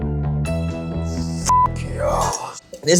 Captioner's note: beeping